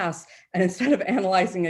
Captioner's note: chuckles